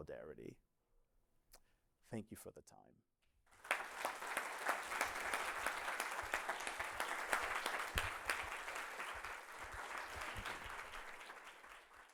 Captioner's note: applause